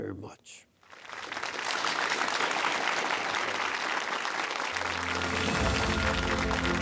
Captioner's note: applause